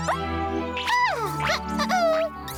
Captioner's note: caterpillar noises